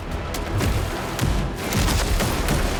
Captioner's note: legs thumping; pistol fires